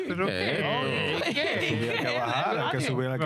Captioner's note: speaking In Foreign Language